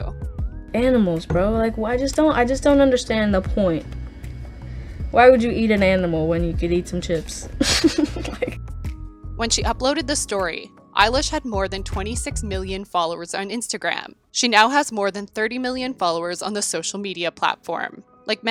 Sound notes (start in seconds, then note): 7.6 laughs